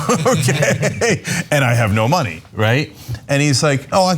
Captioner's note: laugh